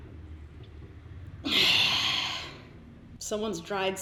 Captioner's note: sighs